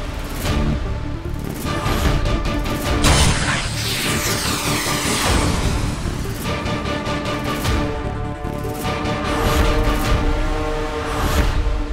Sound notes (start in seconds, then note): 2.6 sound effect playing